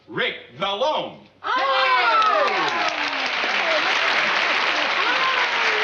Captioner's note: cheering